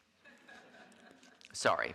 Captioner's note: audience laughing